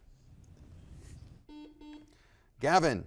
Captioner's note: buzzer blaring